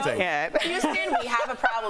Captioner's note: laughter